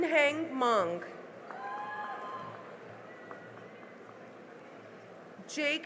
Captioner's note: cheering and applause